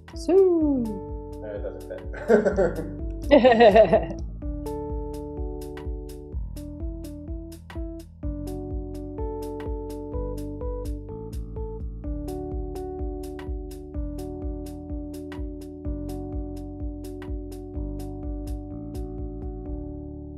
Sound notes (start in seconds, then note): 2.1 laughs; 2.1 client laughing